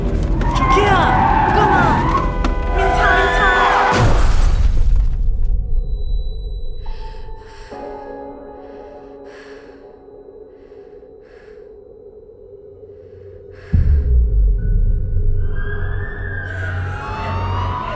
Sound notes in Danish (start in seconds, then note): 3.6 KRASHENDE lyd; 6.0 tinnitus-lyd; 7.6 dyster musik; 16.4 politiets sirene